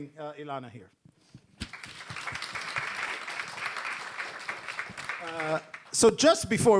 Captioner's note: applause